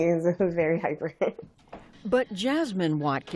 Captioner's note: laughter